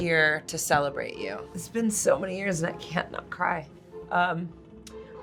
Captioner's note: choked up